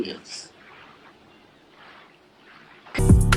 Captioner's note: ocean background sound